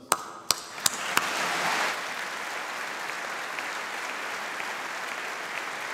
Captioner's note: applause